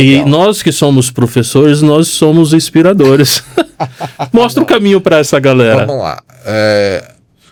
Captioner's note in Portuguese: risadas